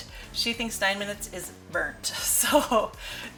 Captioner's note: laughs